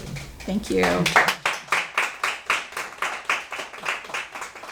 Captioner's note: audience clapping